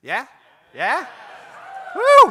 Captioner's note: cheers and applause